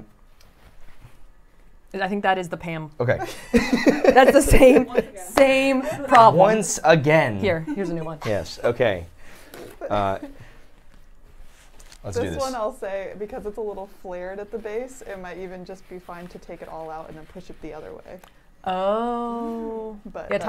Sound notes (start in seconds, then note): 3.2 laughs